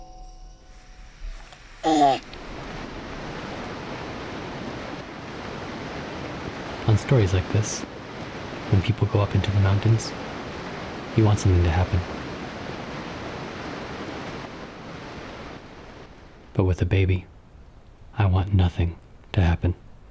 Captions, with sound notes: [water splashing] On stories like this, when people go up into the mountains, you want something to happen. But with a baby, I want nothing to happen.